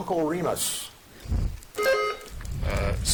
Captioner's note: buzzer dings